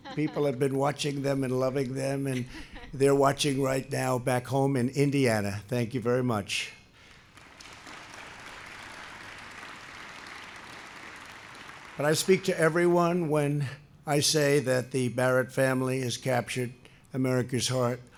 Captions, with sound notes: People have been watching them and loving them, and they're watching right now back home in Indiana. Thank you very much. (applause) And I speak to everyone when I say that the Barrett family has captured America's heart.